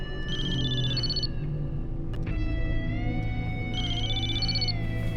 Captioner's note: mobile phone rings